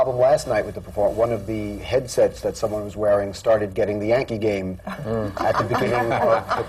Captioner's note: laughter